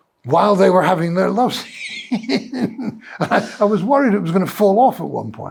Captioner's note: laughs